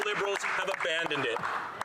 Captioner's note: some Applause